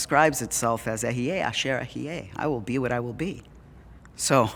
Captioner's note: Hebrew